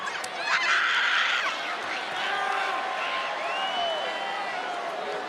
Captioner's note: Roxanne screaming; crowd cheering